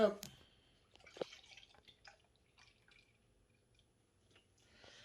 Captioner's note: milk trickling